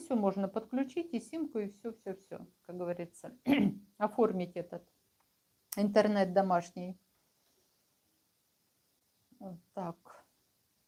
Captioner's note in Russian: откашливается